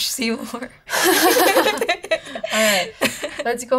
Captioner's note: laughter